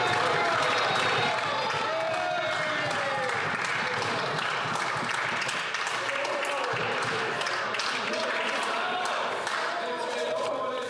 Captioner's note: some Applause